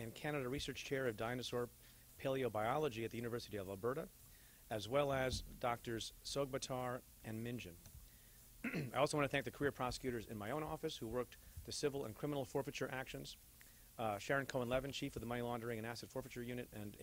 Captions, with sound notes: and Canada Research Chair of dinosaur paleobiology at the University of Alberta. as well as Doctors Sogbatar and Mingen. (clears throat) I also want to thank the career prosecutors in my own office who worked the civil and criminal forfeiture actions. Uh, Sharon Cohen Levin, Chief of the Money Laundering